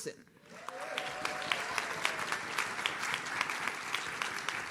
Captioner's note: audience cheers